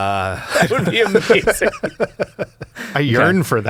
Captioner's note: all laughing